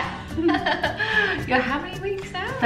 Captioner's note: laughter